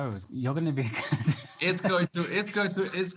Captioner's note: laughs